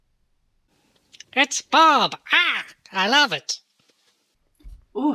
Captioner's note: caw